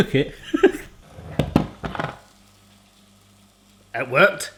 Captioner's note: he laughs